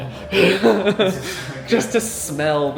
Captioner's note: laughs excitedly